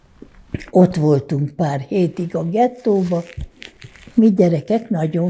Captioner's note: wiping nose